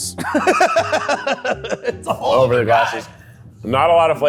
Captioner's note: laughs